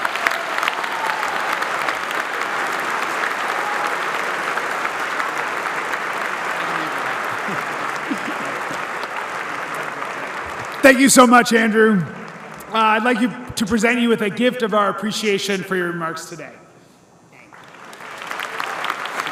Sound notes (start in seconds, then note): 6.7 applause